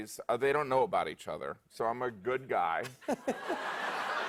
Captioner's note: laughter